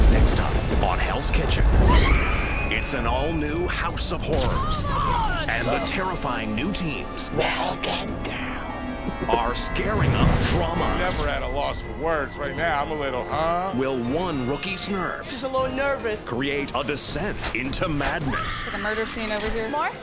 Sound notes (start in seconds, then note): 1.8 screaming